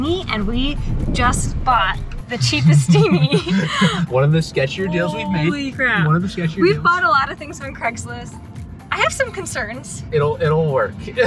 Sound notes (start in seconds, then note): 2.4 laughing